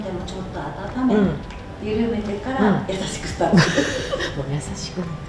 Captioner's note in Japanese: 笑い; 咳払い